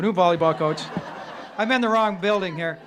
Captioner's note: laughing